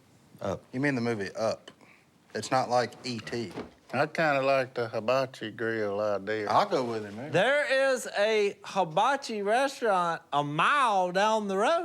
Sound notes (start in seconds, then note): none